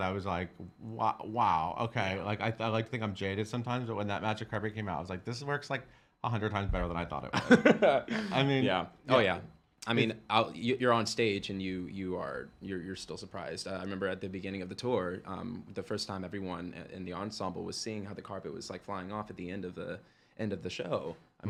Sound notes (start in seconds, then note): 7.4 laughing